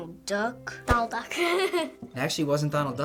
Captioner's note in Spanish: risas